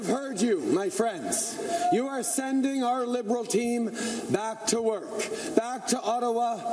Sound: cheering and Applause

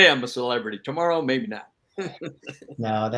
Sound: chuckles

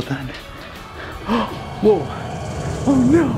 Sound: gasps

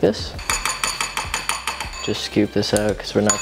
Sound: spoon clanging

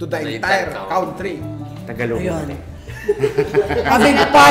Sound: laughter

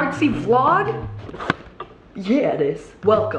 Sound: camera knob clicks

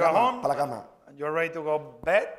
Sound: speaking spanish

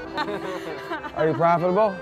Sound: laughing

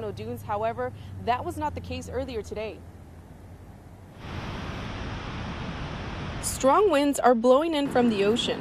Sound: sound of wind blowing

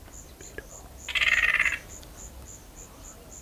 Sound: yellow-Crowned Gonolek call

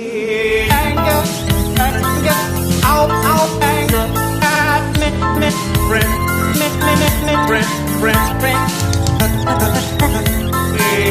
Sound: glitchy noises

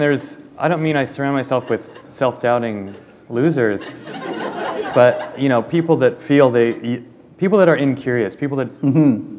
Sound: laughter

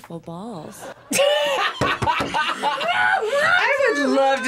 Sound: both laugh

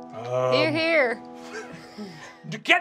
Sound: giggling

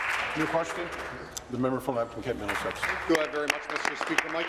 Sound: applause

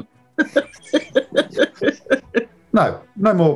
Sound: chuckling; giggling

